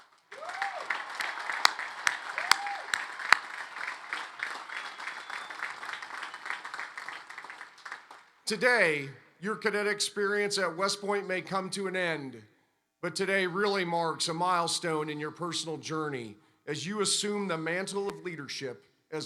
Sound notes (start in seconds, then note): 0.0 applause